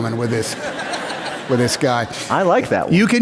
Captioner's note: laughter